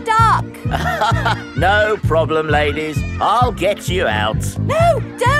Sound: chuckles

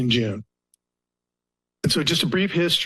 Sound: pause

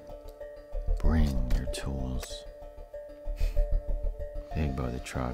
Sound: chuckles

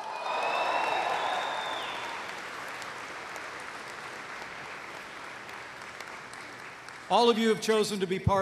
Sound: applause

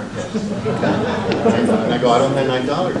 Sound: audience laughs

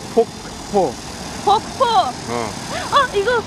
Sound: waterfall

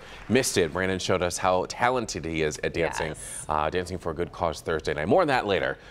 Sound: applause

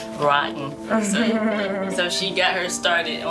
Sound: laughing

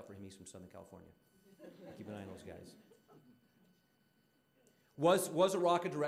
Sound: audience laughing

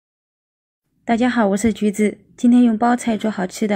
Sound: Mandarin

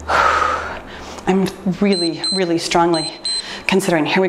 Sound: timer beeps

